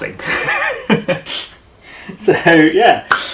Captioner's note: laughing